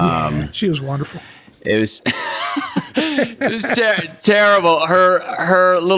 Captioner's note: both laughing